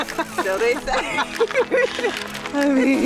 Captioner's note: laughter